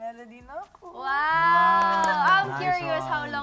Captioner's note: claps